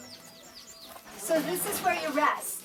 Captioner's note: birds chirping